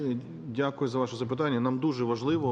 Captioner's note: speaking in foreign language